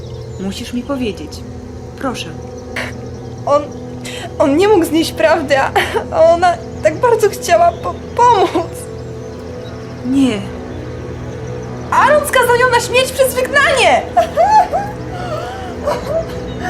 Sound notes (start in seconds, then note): 13.2 hysterical crying